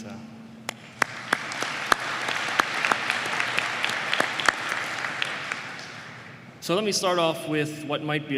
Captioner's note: applause